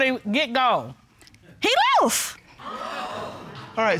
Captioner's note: audience gasps